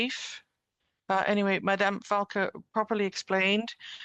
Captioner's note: speaking French